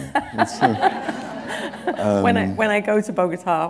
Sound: laughter

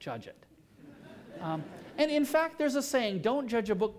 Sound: laughter

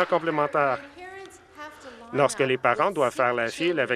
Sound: some Applause

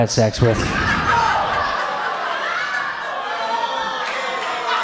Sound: audience shouts

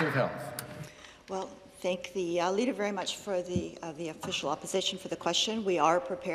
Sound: some Applause

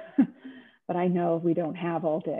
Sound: laughing

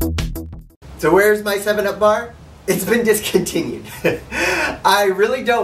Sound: laughs

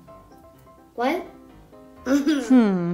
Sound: laughs

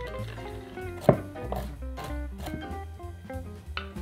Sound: knife chopping

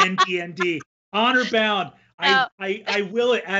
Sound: laughs

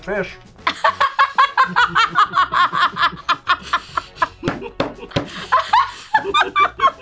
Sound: laughs

